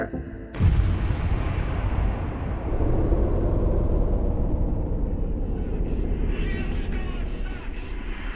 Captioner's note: soundbite of archived recording